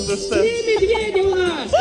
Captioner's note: speaking foreign language